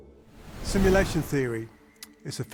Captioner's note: wind whooshing